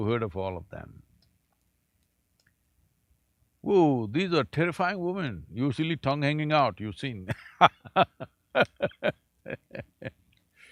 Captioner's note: laughs